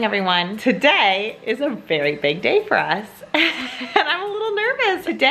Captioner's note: laughs